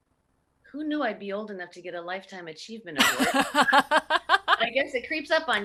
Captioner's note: laughs